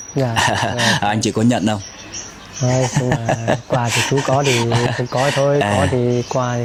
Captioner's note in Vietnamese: tiếng cười